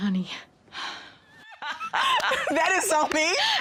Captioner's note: laughing